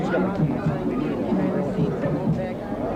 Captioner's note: none